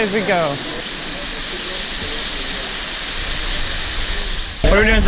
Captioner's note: waterfall sound